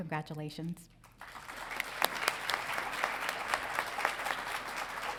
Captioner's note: crowd applauding